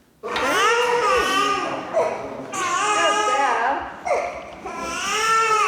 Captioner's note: baby noises